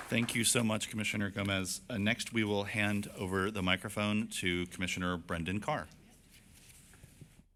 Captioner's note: applause